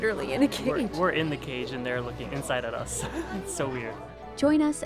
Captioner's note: chuckles